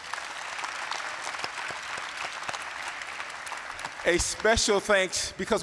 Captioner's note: applause